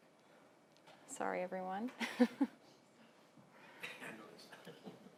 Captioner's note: laughing